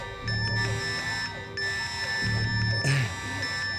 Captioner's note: VPN beeps